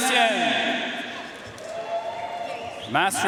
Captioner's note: audience cheering and applauding